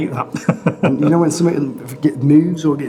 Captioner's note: laughs